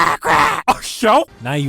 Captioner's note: imitating Donald; imitating Goofy